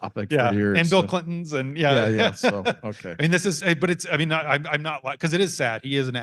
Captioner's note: laughs